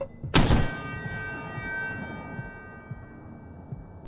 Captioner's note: loud ringing